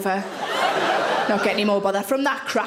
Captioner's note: audience laughing